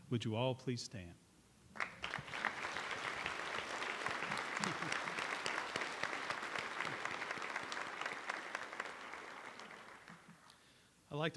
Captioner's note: applause